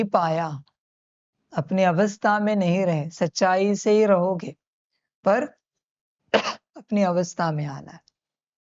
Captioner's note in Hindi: खांसने की आवाज़